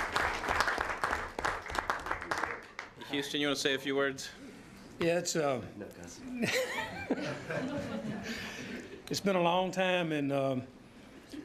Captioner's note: applause